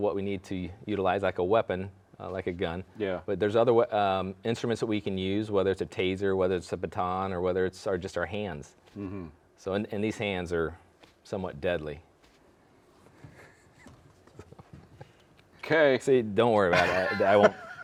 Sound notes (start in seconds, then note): 13.6 chuckling